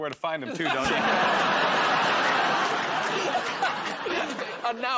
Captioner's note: laughter